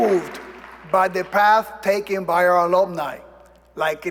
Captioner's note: applause